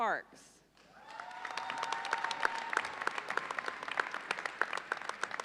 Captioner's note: audience cheers and applauds